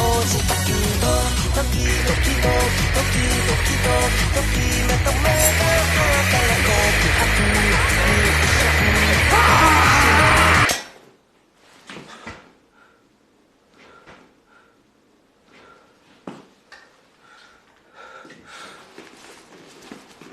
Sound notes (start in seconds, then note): 10.3 clank, then silence; 11.2 turns step, breathes heavily; 13.2 slight footsteps; 16.2 pants heavily